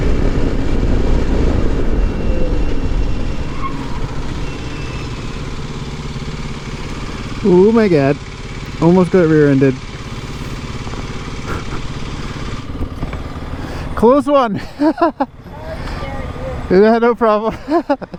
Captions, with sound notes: *tires screeching* Oh my god, almost got rear-ended Close one! Sorry I scared you Yeah, no problem